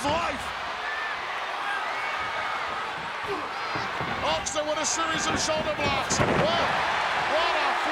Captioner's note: applause